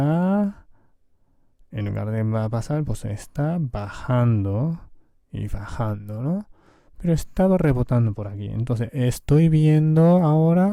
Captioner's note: Spanish